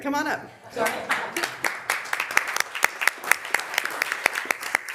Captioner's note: members applauding